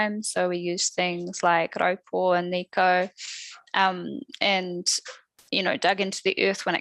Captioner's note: non-english speech